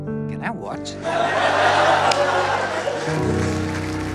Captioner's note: Audience laughing